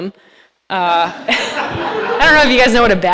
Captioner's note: audience laughs